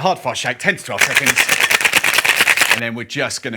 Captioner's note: cocktail shaker rattling